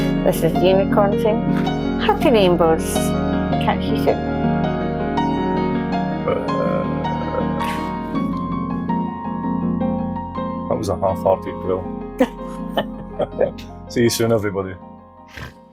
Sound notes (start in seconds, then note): 6.2 bear growls; 12.2 unicorn laughs